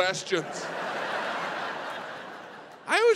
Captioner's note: audience laughs